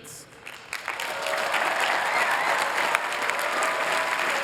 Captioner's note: applause